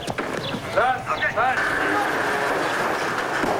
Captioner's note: grunting